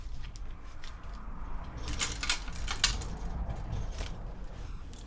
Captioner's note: hangers rattling continues; traffic humming faintly